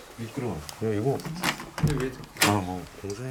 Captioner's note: the sound of turning the doorknob